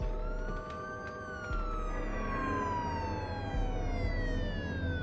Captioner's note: sirens approaching